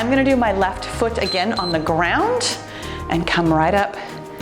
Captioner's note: timer beeps